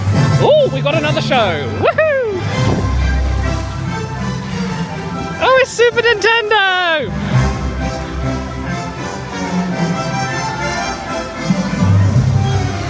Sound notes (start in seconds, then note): 0.1 dramatic music; 1.7 cheers; 3.1 dramatic music; 7.3 dramatic music